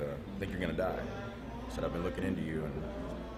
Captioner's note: none